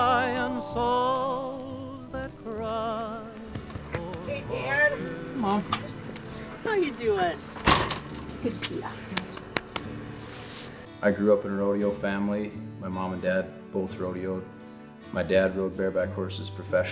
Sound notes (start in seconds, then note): 9.0 hand pats